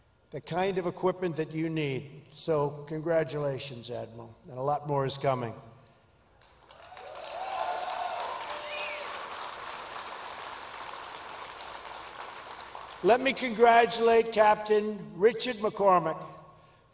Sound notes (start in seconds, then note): 6.4 applause